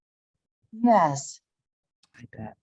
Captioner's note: using speech output